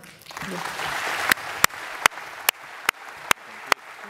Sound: applause

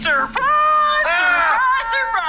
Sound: screams

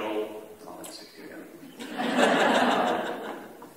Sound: laughter

